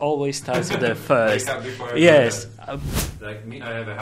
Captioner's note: laughs